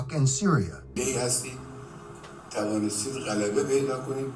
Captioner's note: speaking in a foreign language